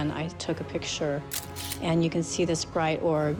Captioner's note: camera shutter clicking